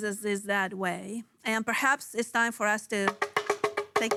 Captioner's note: a shaker rustling